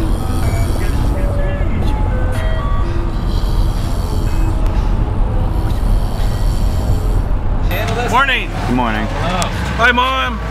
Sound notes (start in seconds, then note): 0.0 snoring; 3.1 snoring continues; 5.4 still snoring